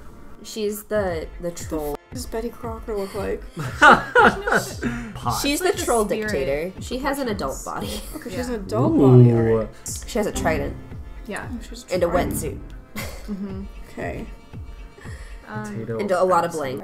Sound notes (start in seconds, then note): 3.6 laughs; 7.7 laughs